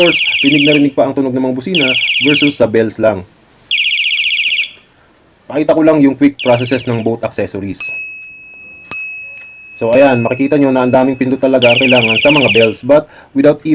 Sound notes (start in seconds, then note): 7.8 bike bell and electric horn